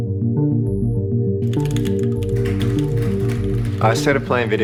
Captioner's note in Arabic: نقر على لوحة المفاتيح